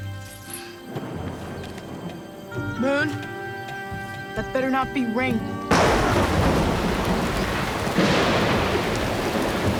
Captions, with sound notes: (thunder rumbling) - Moon, that better not be rain. (thunder cracking)